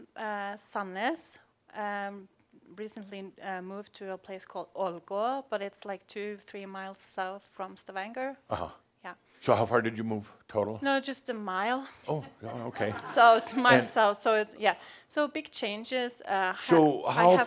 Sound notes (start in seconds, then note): 13.3 some chuckles